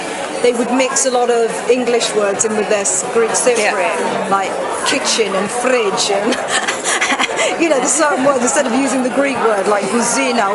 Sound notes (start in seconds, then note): 6.2 laughs